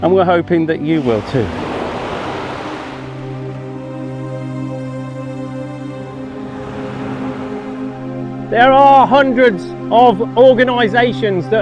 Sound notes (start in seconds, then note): 0.8 waves crashing; 1.8 somber music continues